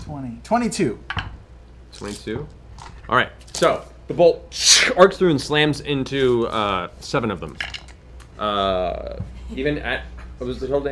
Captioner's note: counts quietly; electric spark